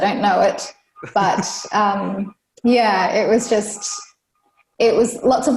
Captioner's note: laughs